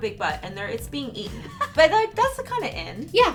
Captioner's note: laughs